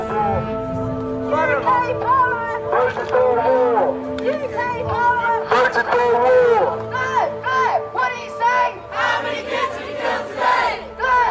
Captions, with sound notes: [LOUDSPEAKER] UK Parliament voted for war! [LOUDSPEAKER] Blair, Blair, what do you say? [CHANT] How many kids did you kill today?